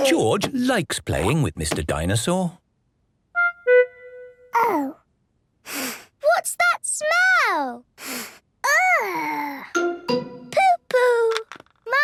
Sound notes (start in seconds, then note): 5.7 sniffs; 8.2 sniffs